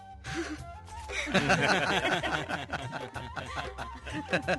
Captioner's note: laughing